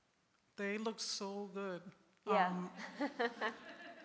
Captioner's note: laughs; audience laughs